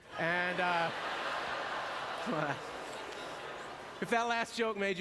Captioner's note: audience laughter